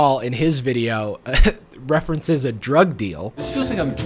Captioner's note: laughs